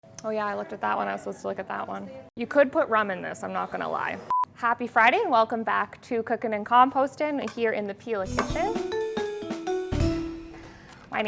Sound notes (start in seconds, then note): 4.3 beep; 8.2 lively music